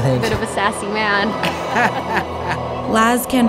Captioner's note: laughs